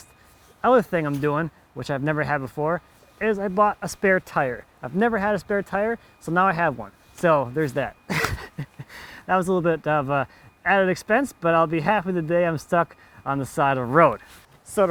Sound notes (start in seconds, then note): 8.1 laughing